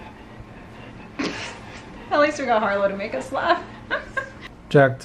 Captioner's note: snorting; laughing